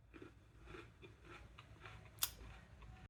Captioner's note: munching sounds